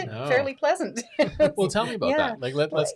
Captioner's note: laughs